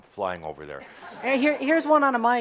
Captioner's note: laughter